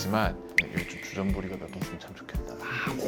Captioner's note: whisper